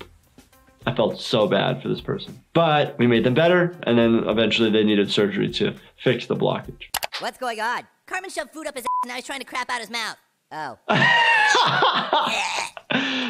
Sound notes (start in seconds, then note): 8.8 beep; 10.8 laughing